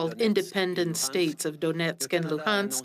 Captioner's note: speaking French